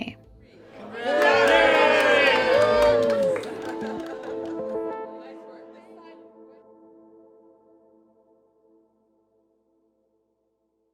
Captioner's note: cheering and music